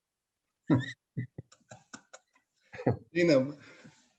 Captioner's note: laughs